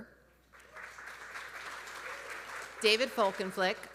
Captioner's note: audience applauding